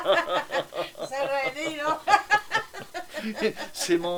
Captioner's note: laugh; laugh